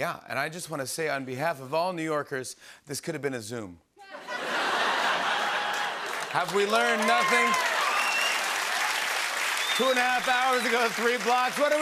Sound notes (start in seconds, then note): 4.0 laughter; 7.8 applause